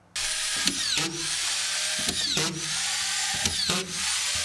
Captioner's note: machine whirring